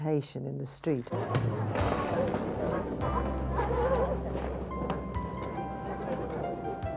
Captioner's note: gentle music; group chattering